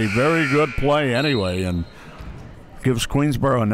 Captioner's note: clock buzzes; referee blows whistle